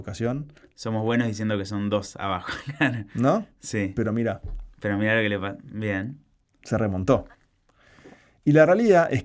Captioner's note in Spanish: risas